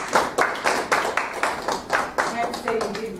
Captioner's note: applause